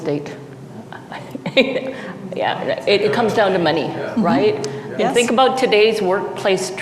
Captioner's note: laughs